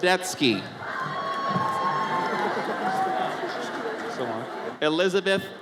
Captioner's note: audience cheers